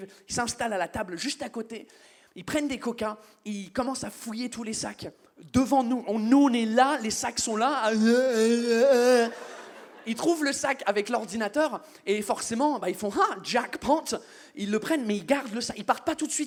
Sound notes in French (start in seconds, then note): 7.9 bruits ivres